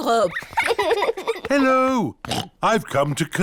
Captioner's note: oinks